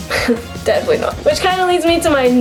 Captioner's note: chuckles